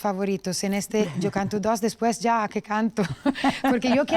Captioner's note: laughs